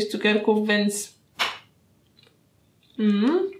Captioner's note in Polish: dźwięk pękającego cukierka